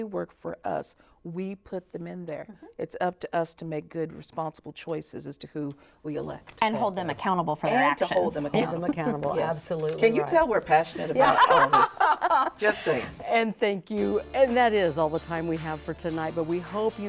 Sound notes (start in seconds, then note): 14.7 laughs